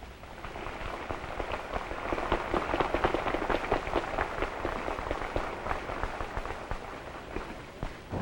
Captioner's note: applause